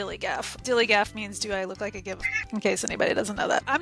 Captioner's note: meow